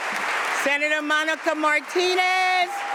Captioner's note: applause